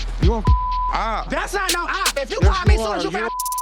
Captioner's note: beep